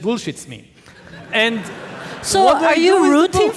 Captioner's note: audience laughing